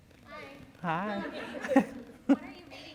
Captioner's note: laughter